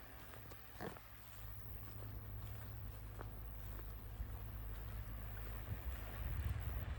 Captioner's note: canal boat engine noise